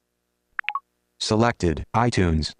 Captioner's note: device blips